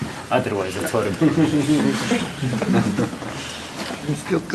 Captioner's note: laughing